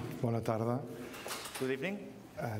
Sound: speaking catalan

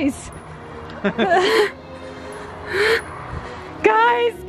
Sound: mom and Dad laughing

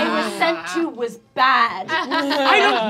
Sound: laughing

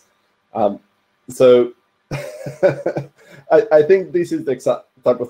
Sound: laughs

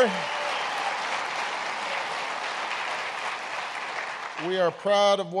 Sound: applause

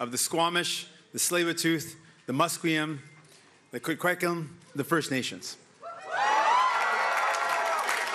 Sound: cheering

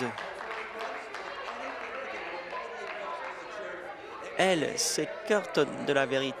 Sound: applause

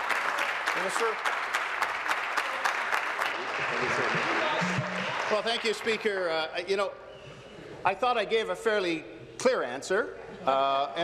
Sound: applause

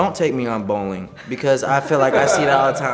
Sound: laugh

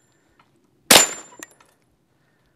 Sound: bang

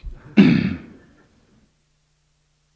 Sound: laughter

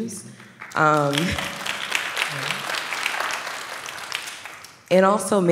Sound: applause

